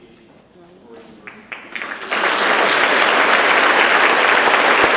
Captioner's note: audience claps